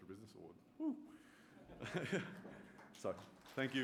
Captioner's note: chuckles